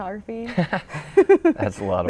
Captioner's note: laughter